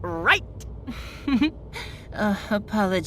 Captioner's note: chuckle